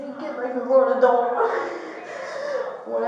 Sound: sobbing

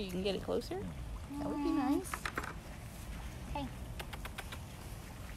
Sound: chatter

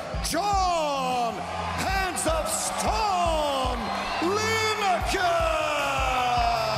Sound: speaking foreign language

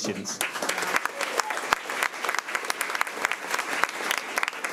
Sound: crowd clapping

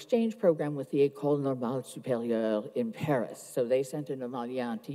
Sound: speaks foreign language

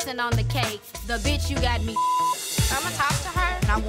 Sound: beep sound

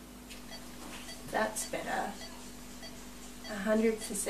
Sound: beeping

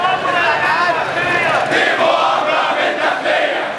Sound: chants

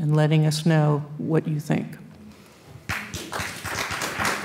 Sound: applause

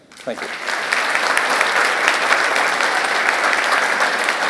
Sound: audience applauds

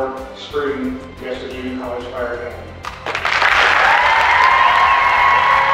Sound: cheering and applause

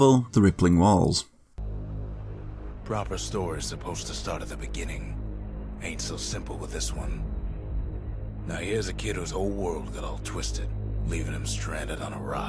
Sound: in-game audio

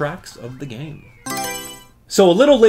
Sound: Mario Selection Sound

